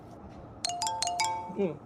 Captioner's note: phone beeping